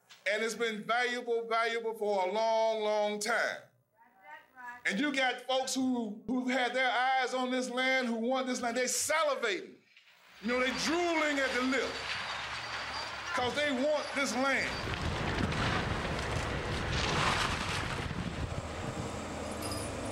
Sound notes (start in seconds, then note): 16.0 bricks, concrete crash down